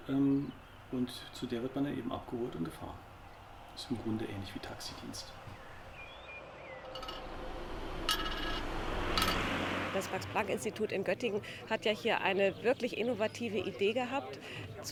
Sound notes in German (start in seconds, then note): 5.7 Vogelzwitschern, Autogeräusche, metallisches Klirren